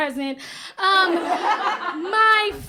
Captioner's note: laughter